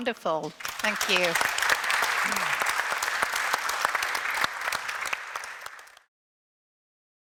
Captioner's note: audience applauds